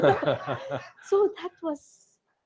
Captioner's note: laughter